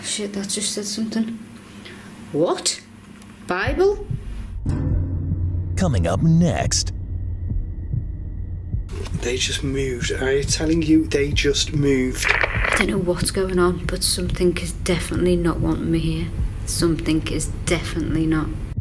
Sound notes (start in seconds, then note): 12.1 static crackling